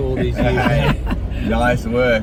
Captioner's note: men laughing